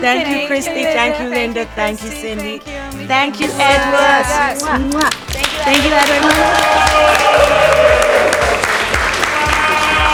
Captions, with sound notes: - Thank you, Christy, thank you Linda, thank you, Cindy. Thank you Edward. [lips smack] - Thank you, everyone. [crew clap and cheer]